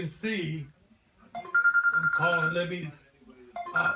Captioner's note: phone ringing